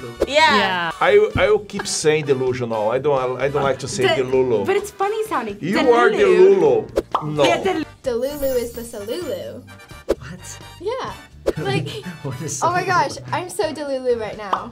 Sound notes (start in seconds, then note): 7.0 bubble pops; 10.5 air whooshes